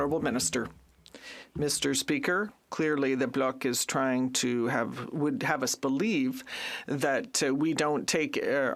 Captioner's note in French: voix de l'interprète